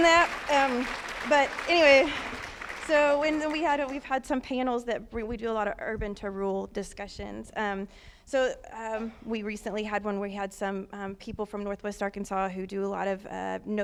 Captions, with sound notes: INCLUSIVE, WE HAVE TO PROVIDE CHILD CARE SO THANK YOU FOR DOING THAT. [Applause] BUT, ANYWAY, SO WE'VE HAD SOME PANELS WE DO A LOT OF URBAN TO RURAL DISCUSSIONS, SO WE RECENTLY HAD ONE WHERE WE HAD